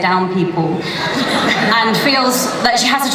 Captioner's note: laughter